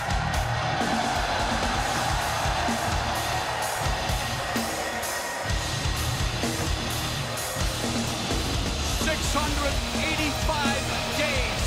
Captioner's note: crowd cheering